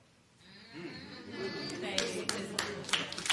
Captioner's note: spectators murmur